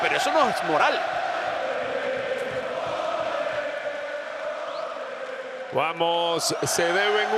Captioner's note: applause